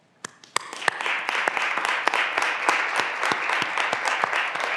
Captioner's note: graduands applauding